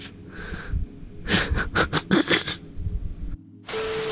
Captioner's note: giggling